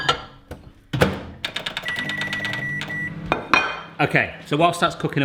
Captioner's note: beeping